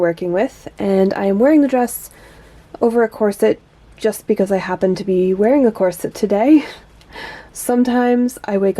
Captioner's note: laughs